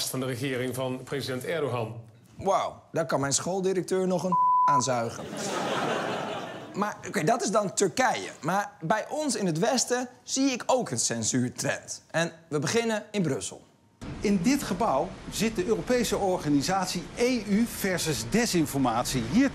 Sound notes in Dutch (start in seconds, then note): 4.3 piep